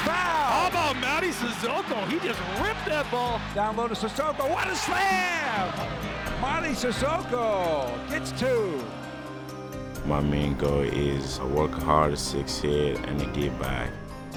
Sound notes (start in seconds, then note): 5.4 crowd cheering